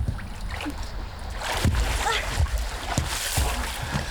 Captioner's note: both grunting